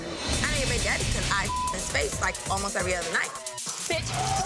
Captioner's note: beep